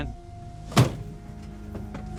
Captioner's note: slam